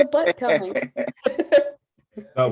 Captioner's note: laughter